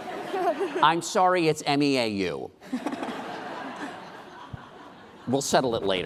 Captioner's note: laughing